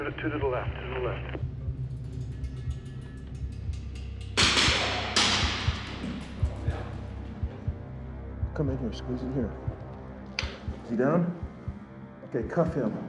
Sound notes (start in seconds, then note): 4.4 gunfire